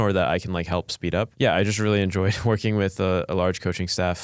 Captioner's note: laughs